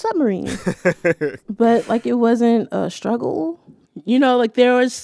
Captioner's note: laughter